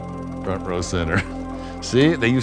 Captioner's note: chuckles